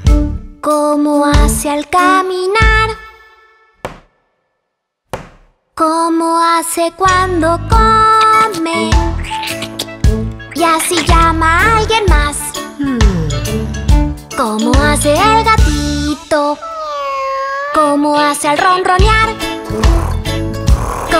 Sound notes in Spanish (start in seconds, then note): 5.1 Sonido de pasos; 9.2 Sonido de morder; 16.6 Maullido; 19.7 Ronroneo